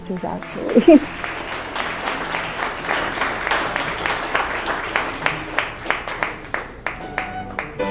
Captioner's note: applause